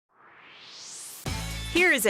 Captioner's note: swoosh